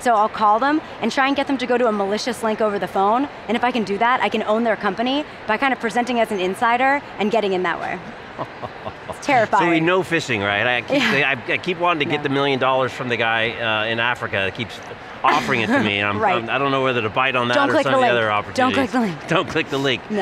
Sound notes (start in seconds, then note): 8.1 chuckling; 15.3 snickers